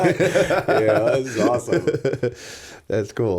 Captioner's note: laughter; chuckle